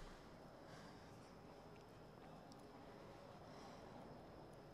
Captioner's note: Keely breathes heavily